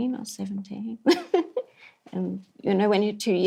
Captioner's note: laughs